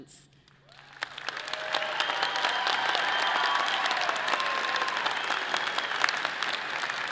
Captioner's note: audience applauding and cheering